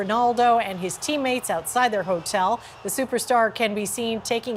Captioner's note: cheers